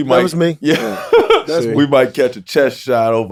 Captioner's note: laughing